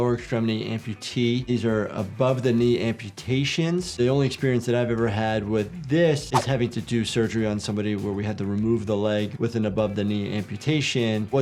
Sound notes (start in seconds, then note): 6.3 screen swooshing